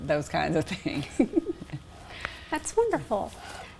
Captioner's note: laughing